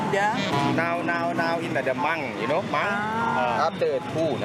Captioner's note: in Thai